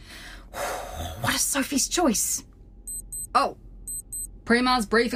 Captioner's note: A watch alarm sounds